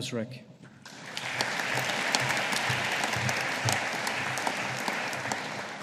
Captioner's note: audience applauding